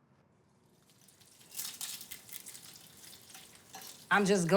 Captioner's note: sizzling